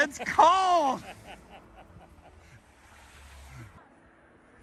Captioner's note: man laughing